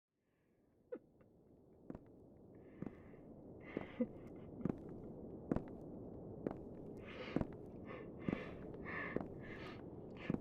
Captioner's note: footsteps, muffled crying